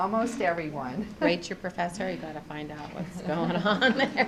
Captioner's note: laughs